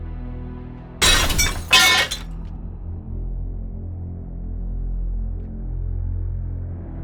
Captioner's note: glass shattering; metal clanking